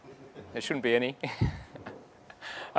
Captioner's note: laughs